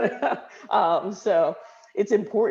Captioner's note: laughing